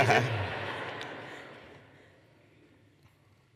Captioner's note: laughter